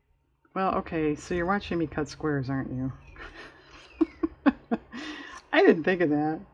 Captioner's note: laughs